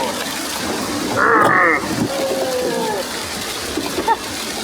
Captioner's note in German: grunzende Geräusche